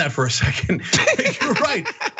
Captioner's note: laugh